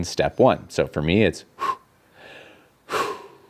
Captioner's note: breathes sharply